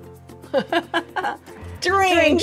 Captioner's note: laughing